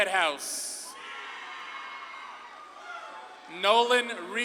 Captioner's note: audience claps and cheers